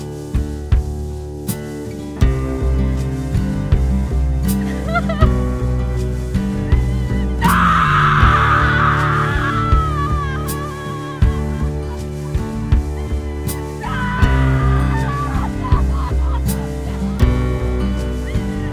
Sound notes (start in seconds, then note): 12.6 Elizabeth sobs